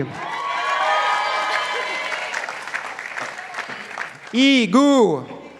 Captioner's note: participants applauding